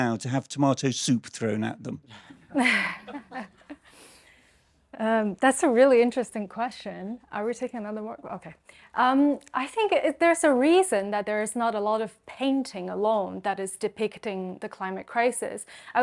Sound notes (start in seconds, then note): 2.3 chuckles